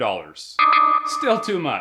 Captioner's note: error effect